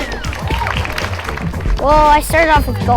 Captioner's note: audience applauding